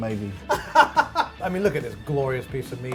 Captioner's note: laughing